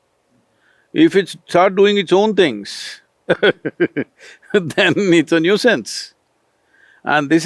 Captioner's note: laughs